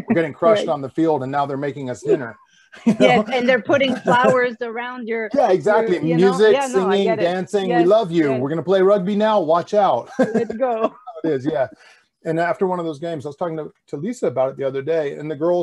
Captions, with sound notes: We're getting crushed on the field, and now they're making us dinner.(laughs) - Yes, and they're putting flowers around your- - Yeah, exactly. Music, singing, dancing- we love you! And we're going to play rugby now, watch out. (laughs) - And after one of those games, I was talking to Lisa about it the other day.